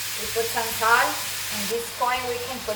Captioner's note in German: brutzelnd